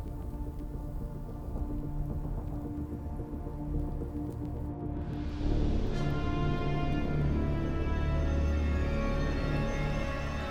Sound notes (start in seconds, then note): 3.7 fire crackling; 6.3 dramatic music